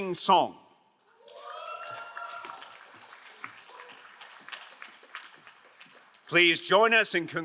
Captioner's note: crowd cheering and applauding